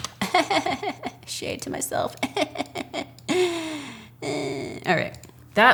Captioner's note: chuckles